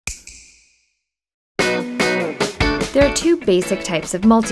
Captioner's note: snap